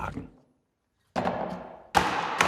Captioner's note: loud hammering